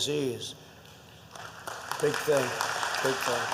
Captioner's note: applause